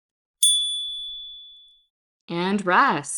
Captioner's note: chime